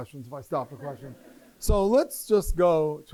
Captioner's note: laughter